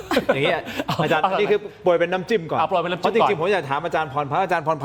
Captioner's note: laughter